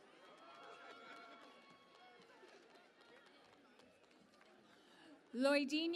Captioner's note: cheering and Applause